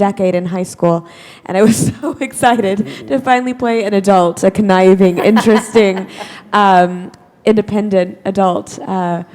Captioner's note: chuckle